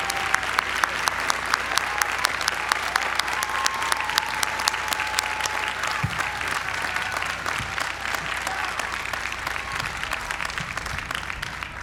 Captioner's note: applause